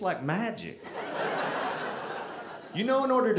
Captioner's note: audience laughing